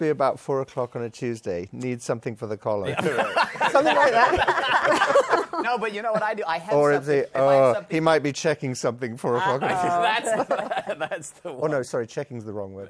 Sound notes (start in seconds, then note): 2.8 laughter